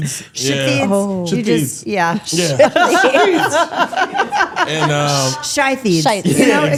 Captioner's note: laughs